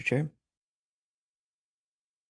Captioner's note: speaking French